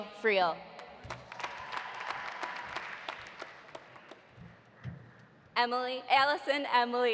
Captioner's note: audience applauding; audience cheering